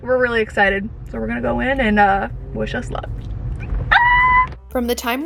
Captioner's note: squealing